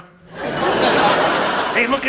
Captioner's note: audience laughs